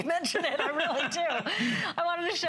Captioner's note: laughter